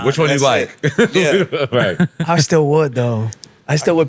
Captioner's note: laughing